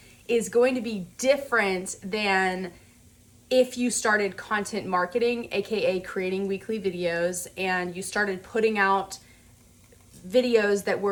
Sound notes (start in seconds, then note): none